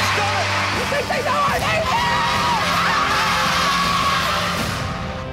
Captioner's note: shouting